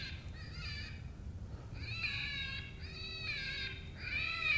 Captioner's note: bobcat cry